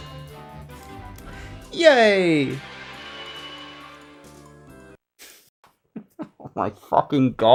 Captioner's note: laughs